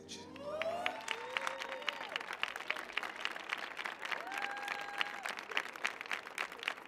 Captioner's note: audience applauding; audience cheering